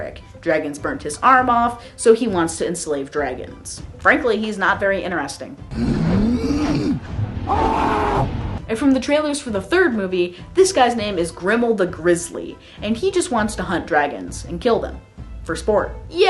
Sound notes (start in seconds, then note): 5.7 grunting and screaming